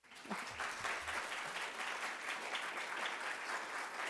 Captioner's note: audience applauds